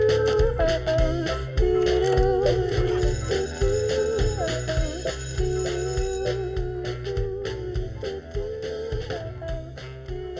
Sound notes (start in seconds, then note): 3.0 school bell rings